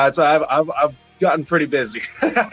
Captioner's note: laughs